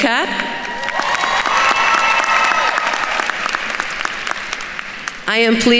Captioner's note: attendees cheering and applauding